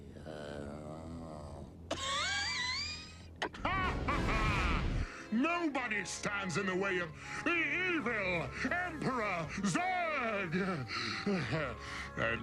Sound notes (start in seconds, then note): 0.0 weak murmuring; 1.8 coughs